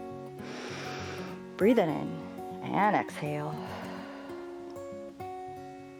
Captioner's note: inhales; exhales